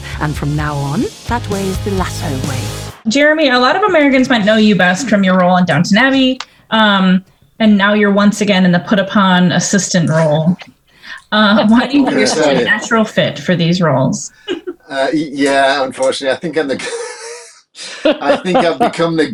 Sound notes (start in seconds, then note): 10.6 Jeremy and Hannah laughing; 16.3 laughing; 19.0 laughs